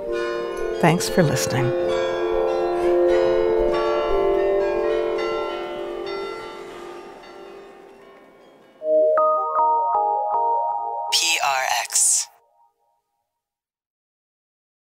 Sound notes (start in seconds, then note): 2.6 bells chiming; 2.6 calm music; 9.1 bright music